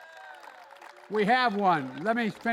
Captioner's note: applause